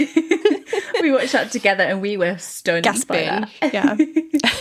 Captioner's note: both laughing